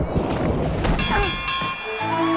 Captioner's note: dinging